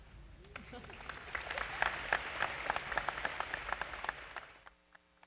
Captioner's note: applause